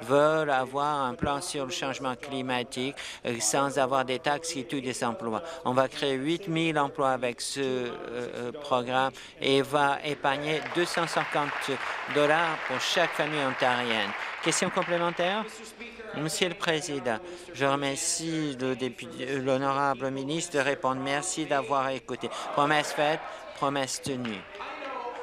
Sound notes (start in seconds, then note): 12.8 applause